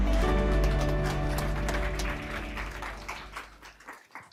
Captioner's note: applause